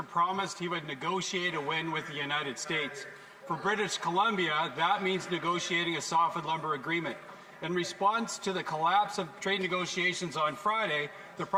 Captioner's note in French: voix de l'interprète